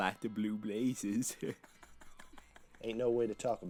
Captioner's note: Casey laughing